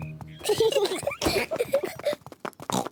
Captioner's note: peppa and george giggling; oinks